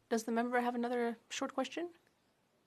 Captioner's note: speaking French